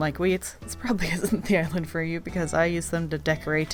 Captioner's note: laughing